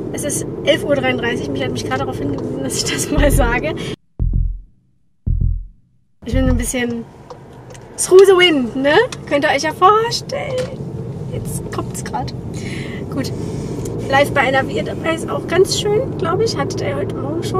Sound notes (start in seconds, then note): 5.2 heartbeats; 9.0 voice gets higher